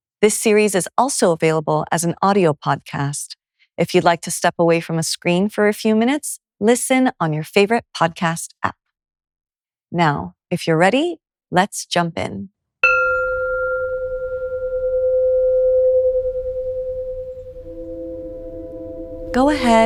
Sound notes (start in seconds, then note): 12.8 gong chimes; 14.4 slow, meditative music begins